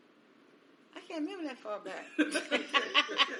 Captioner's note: all laugh